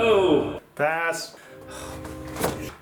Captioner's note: sighs with unholy intent